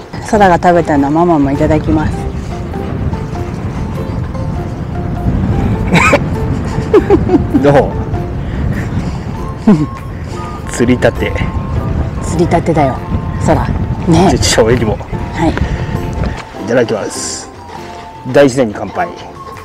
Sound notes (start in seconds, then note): 5.8 laughs